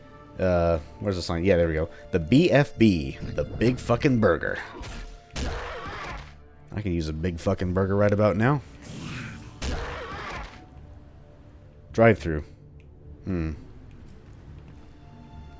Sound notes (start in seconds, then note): 4.7 thwack; 8.9 Bugdog snarls, then gets promptly smashed